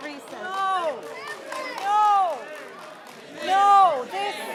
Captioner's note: audience chanting